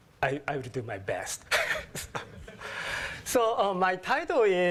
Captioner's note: laugh